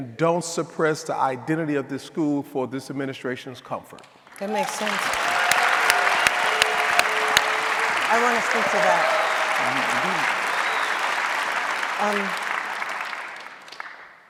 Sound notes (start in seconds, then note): 5.6 audience applauding